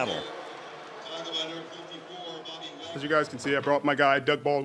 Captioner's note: pa announcement